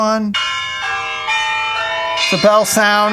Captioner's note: bell ringing